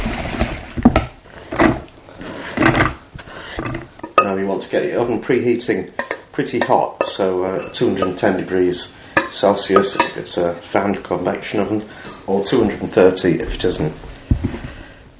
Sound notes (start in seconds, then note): 0.0 stirring noise; 1.1 thud